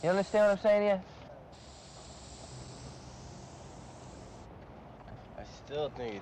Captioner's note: paint spraying